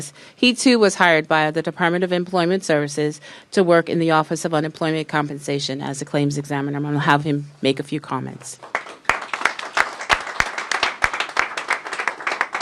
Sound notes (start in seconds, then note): 8.6 applause